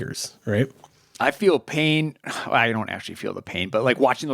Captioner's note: sighs